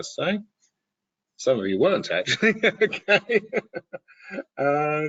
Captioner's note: laughing